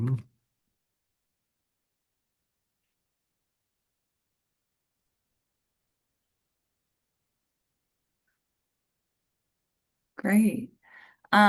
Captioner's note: silence